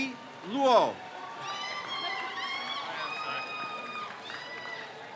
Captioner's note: crowd cheers